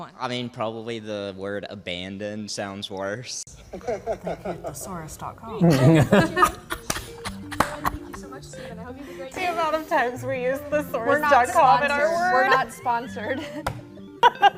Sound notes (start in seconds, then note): 3.5 laughs; 5.5 all laughing